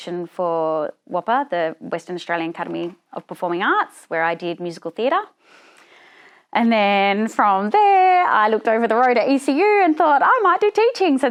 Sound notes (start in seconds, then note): none